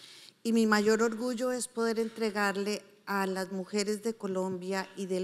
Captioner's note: speaking in foreign language